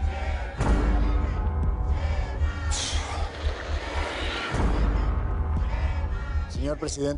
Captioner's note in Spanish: Continúa el griterío por El Chema